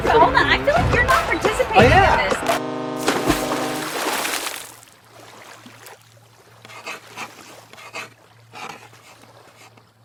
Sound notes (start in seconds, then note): 3.0 water splashes; 3.4 horn honks; 5.5 chalk writing on chalkboard